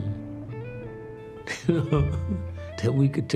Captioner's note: chuckle